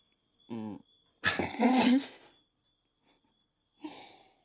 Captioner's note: laughing